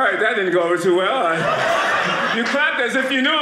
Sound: audience laughing

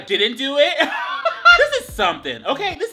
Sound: laughing

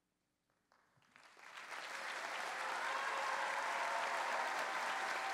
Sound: cheering

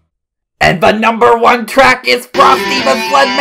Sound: shouting excitedly

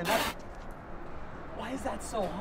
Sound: man spitting

